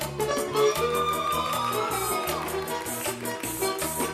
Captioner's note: audience cheering